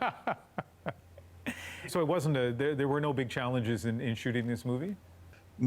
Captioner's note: laughter